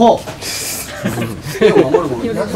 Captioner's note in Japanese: 笑い